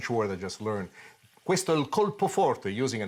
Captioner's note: speaks a foreign language